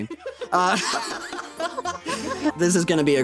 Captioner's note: all Laughing